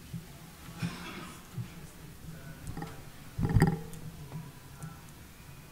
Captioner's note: man speaking off-microphone